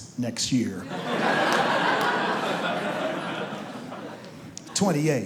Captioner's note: audience laughs